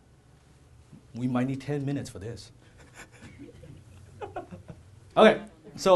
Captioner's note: laughs